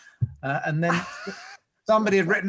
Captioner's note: laughs